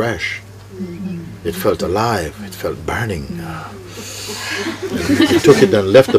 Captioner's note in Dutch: gelach